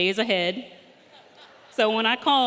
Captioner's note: audience laughing